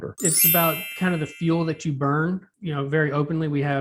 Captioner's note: dings